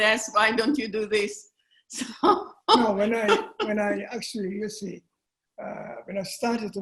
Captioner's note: laughter